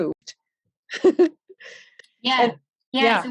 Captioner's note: laughs